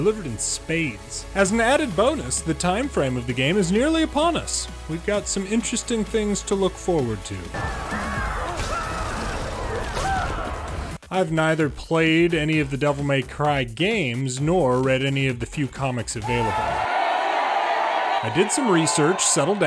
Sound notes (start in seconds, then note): 7.5 death and screaming; 16.2 booing and discontent